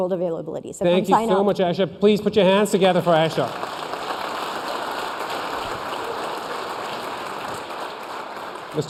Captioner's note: applause